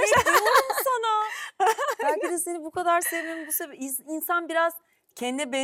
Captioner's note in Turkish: kahkaha